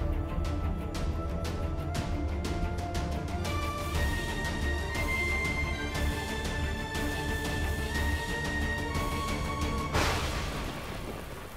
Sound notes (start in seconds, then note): 9.9 thundering